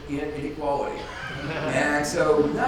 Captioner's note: audience laughs